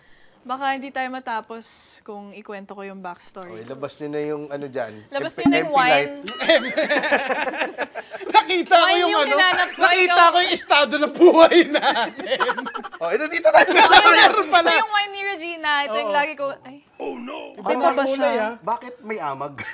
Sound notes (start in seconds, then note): 6.4 laughter; 11.0 laughs